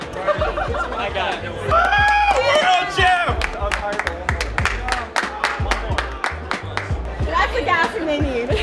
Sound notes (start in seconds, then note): 1.6 cheering